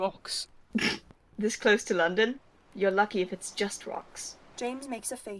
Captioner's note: Alice snorts